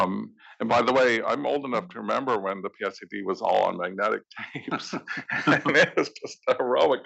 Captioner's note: laugh